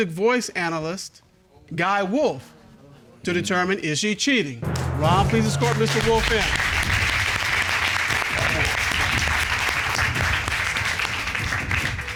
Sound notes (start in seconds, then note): 7.0 applause